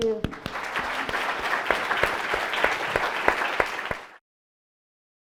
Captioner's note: audience applause